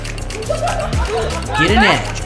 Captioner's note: audience laughter